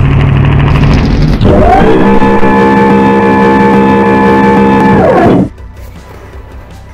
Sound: garage door closing

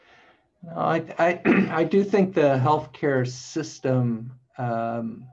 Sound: clears throat

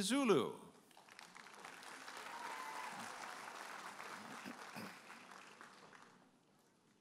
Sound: audience applauding and cheering

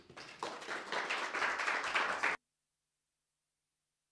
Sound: audience applauding

